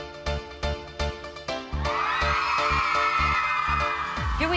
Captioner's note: girls cheering